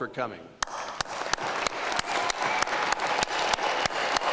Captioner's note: applause